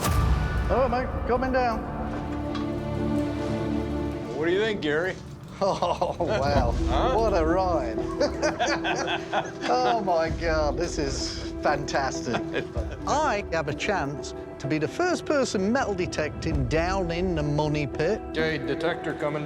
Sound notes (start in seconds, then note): 5.5 chuckling; 7.8 all chuckling